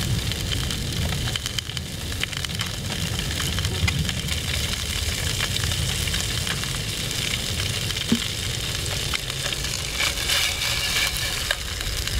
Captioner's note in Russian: шипение сковороды